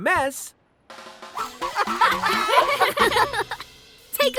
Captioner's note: laughing